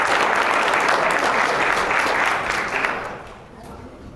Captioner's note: applause